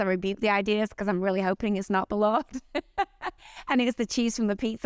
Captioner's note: laughs